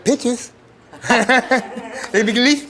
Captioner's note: laughter